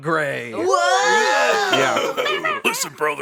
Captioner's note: all shouting